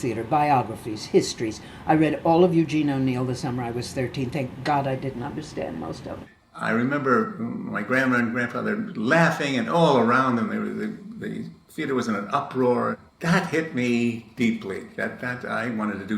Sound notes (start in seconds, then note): none